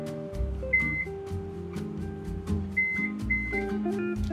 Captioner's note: oven beeping